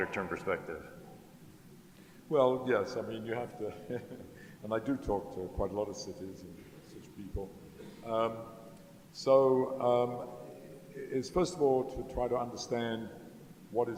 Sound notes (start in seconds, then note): 3.7 laughs